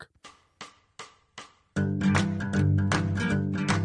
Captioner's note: drumstick tapping; light country music